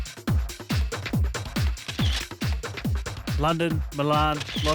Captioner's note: energetic dance music; camera shutter sounds